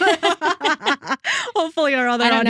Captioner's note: both Laughing